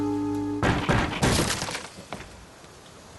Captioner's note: knock knock smash